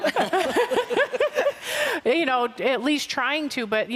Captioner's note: laughter